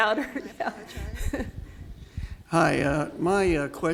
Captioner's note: laughs